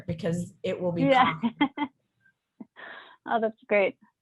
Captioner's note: chuckles